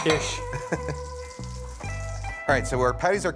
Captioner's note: chuckles